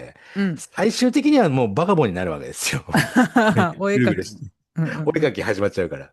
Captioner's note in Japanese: 笑い